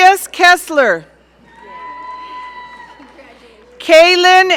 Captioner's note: audience cheering